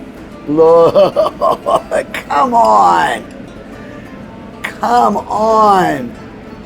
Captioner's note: laughs